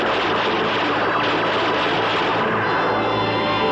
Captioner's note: blast